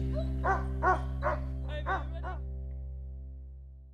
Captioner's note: dogs barking